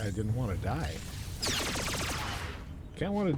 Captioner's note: gun fires